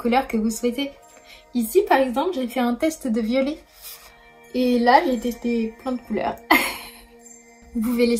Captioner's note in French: rires